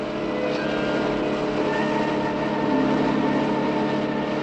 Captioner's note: machine whirring